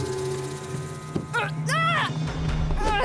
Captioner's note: grunts